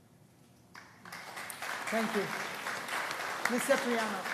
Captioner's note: applause